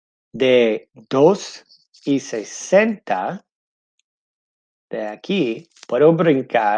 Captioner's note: speaking in foreign language